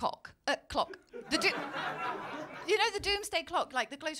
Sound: laughter

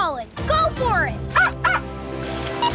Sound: barking

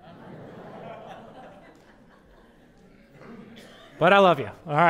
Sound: audience: Laughter

